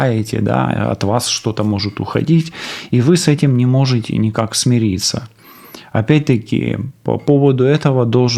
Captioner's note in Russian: фыркает